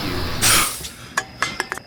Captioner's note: heavy breathing